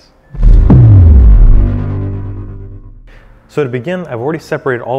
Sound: electronic thrumming

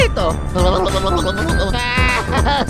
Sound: italian gibberish; shivers; crying

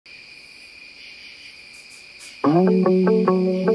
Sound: crickets chirping; upbeat music

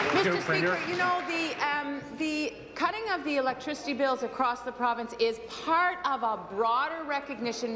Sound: applause

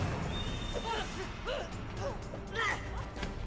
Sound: grunting

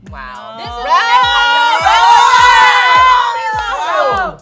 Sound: group screams

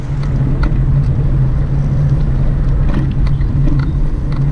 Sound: wind whirring

